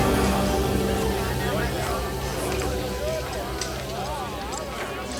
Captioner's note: townsfolk chatter